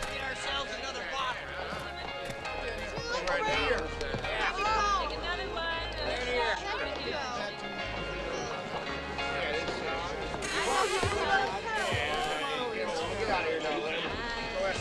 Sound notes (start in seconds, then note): 3.1 patrons chattering; 11.8 doors creak